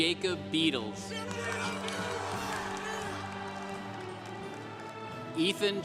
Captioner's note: congregation applauding